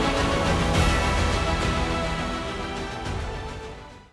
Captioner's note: audience applauding